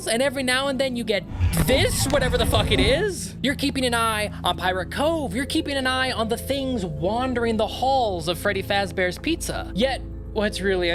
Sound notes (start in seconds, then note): 1.2 creepy animatronic sounds